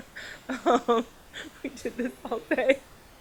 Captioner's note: laughing